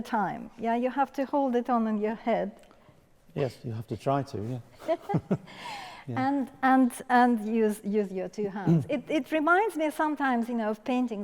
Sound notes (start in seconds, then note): 4.8 laughing